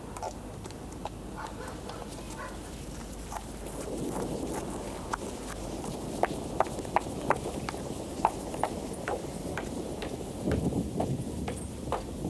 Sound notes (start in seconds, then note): 1.3 dogs barking